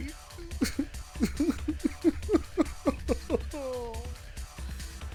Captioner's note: sobbing